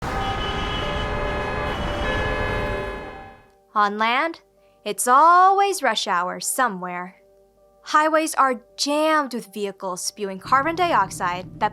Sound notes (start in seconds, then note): 0.0 horns blaring